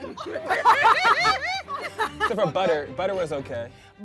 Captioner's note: laughing